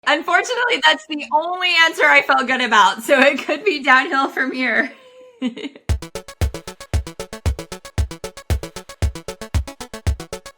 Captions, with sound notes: - Unfortunately, that's the only answer I felt good about. So it could be downhill from here. (laughs) (upbeat music)